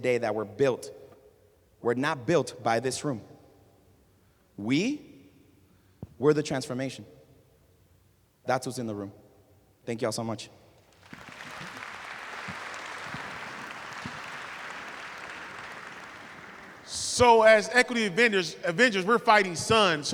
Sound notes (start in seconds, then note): 10.8 applause